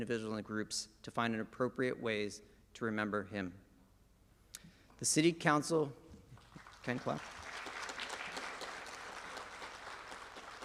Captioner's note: applause